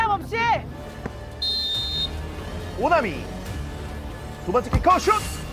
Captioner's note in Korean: 호루라기 소리